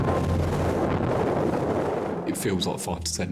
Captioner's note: air whooshing